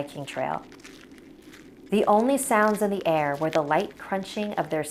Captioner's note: footsteps on trail